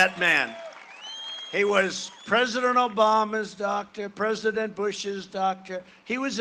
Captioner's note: cheering and applause